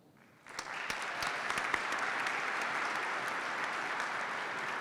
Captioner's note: participants clap